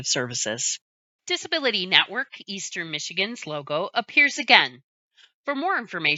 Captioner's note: voiceover